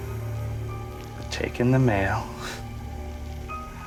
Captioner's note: scoffs